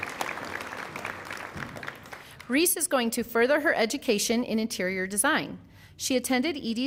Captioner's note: applause